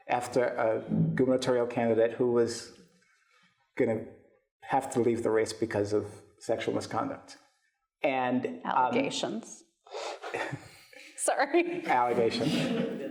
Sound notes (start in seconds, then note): 10.2 chuckles; 12.0 audience laughs